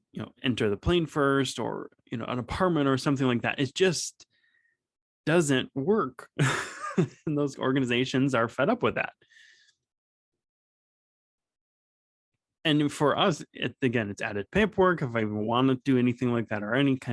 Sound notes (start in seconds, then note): 6.4 small laugh